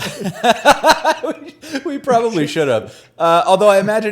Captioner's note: laughs